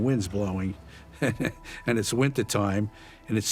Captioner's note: chuckles